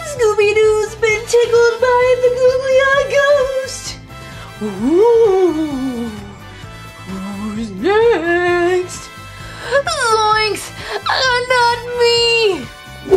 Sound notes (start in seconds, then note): 4.7 ghost wails